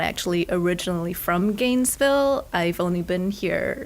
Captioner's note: none